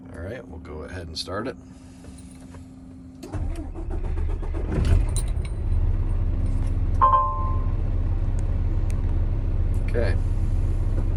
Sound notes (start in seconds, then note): 3.2 engine starting; 7.0 beeping